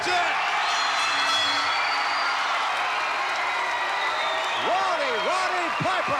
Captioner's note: audience cheering; bell rings